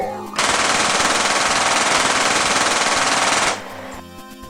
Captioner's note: gunshots